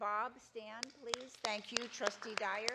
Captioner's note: audience applauding